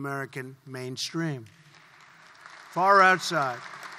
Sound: applause

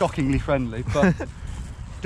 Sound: laughing

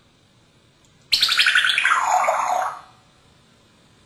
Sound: sound of water pouring

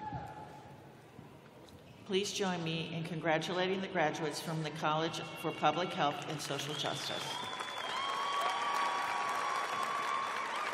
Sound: applause

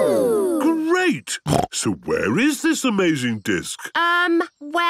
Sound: snorting

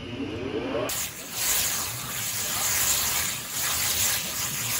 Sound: machine whirring

